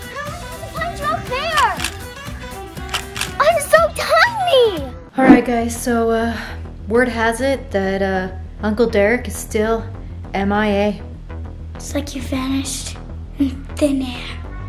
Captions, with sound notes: - How was I supposed to find you up there? (camera clicks) I'm so tiny! - Alright guys. (intense music) So, word has it that Uncle Derek is still MIA. - It's like he vanished into thin air.